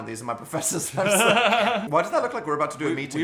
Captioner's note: Phil laughing; laughing